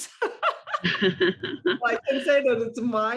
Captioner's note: laughter